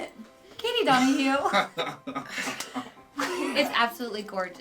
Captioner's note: laughing